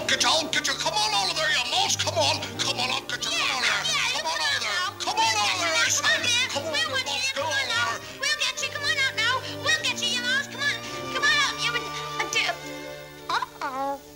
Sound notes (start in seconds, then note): 5.2 overlapping jeers